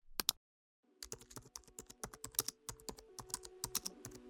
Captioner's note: keys clacking